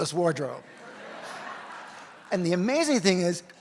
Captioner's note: audience laughs